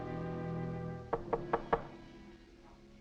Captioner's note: knocking on door